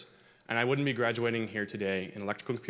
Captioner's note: none